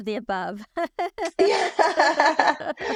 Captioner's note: both laugh